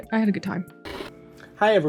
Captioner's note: TV noise